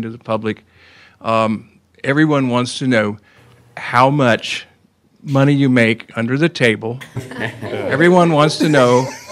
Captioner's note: laughter